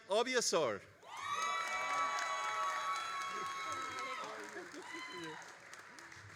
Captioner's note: all applauding and cheering